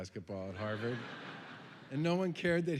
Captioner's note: laughter